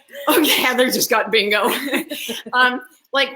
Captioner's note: laugh; laughs